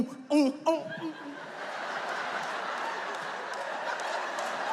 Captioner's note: audience laughs